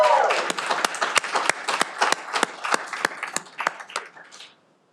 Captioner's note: cheering